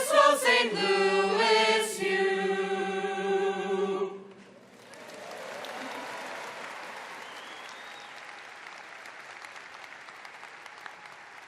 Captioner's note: applause